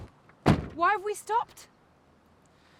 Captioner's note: car door slams shut